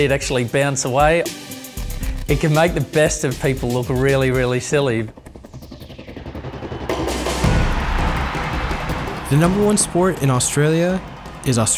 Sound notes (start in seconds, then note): 6.9 wild cheering; 9.4 voiceover